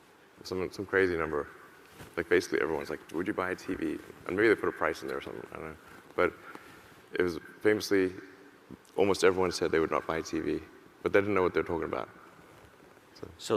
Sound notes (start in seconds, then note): none